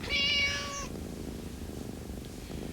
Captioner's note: meow